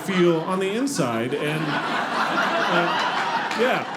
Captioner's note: audience laughing